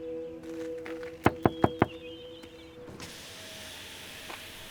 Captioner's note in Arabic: يطرق على النافذة